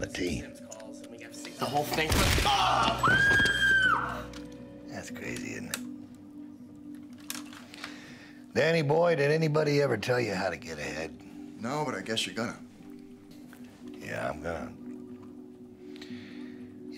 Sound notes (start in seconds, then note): 2.1 gunshot; 2.4 screams; 2.6 groans